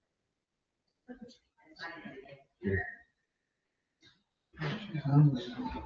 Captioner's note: members chattering